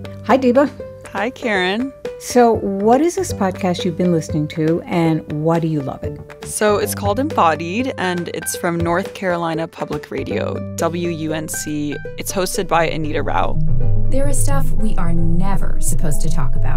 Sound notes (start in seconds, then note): 13.7 soundbite of archived recording